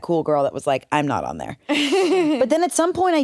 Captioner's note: laughs